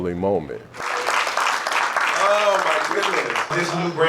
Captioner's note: applause